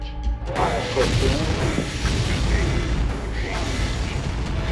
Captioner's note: rockets blasting